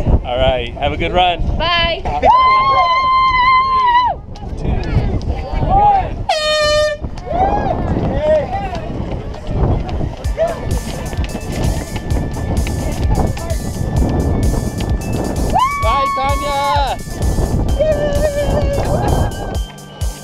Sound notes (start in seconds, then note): 6.2 airhorn blares; 10.4 background music begins